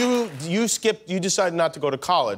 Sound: applause

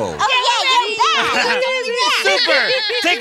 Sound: cheering

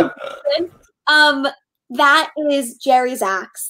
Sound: laughing

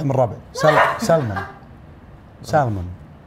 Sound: laughs

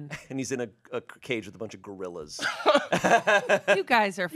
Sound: laughs

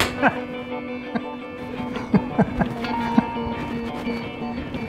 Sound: chuckles

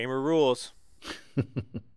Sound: laugh

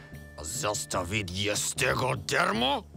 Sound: speaking Russian

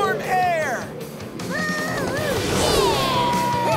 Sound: mooing

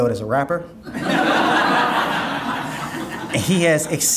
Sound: audience laughing

